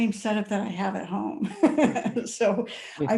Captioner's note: chuckles